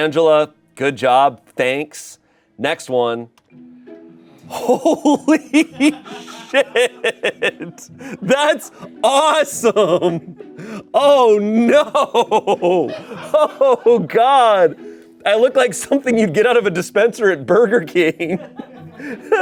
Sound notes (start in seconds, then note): 4.5 laughs; 18.2 laughs